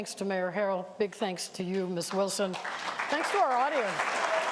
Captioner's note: applause